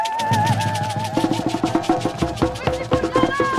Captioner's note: cheering & drumming